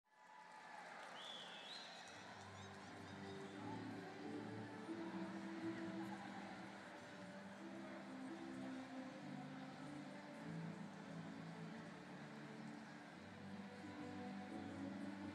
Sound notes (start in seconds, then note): 0.1 applause